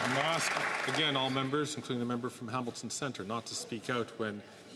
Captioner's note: some Applause